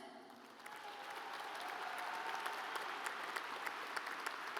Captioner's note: audience applauds